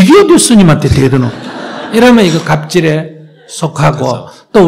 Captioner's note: audience Laughter